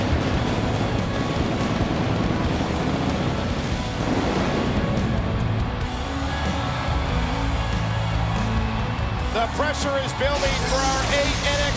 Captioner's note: crowd cheering